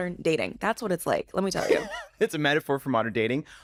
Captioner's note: chuckles